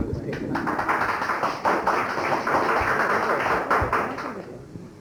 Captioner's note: applause